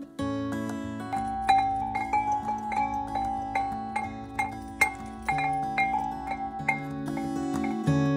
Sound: sound of chimes

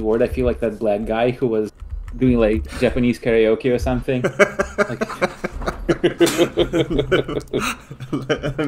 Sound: laughing

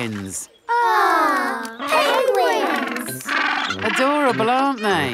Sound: penguins chatter

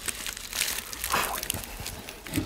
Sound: blowing

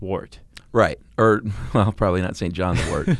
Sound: chuckling

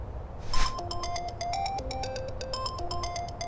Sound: phone rings

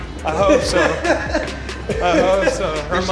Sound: laughs

